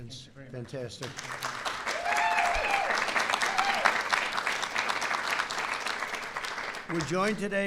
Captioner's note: applause